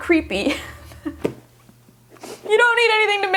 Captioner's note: laughing